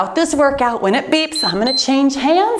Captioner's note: timer beeps